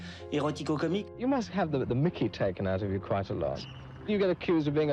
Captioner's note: reporter, in English